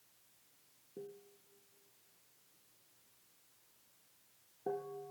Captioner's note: bell dinging; bell dinging